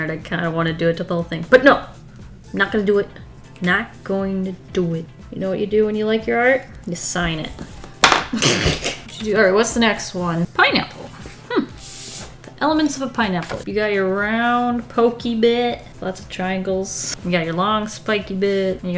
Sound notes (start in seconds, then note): 7.9 laughs